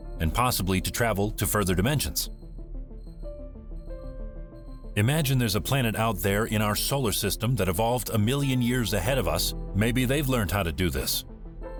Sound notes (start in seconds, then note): 3.2 crickets chirping